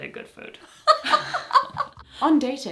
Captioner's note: they both laugh